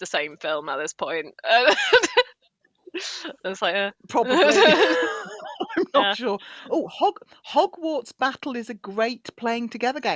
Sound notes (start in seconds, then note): 1.5 laughs